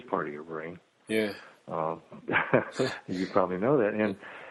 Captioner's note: chuckles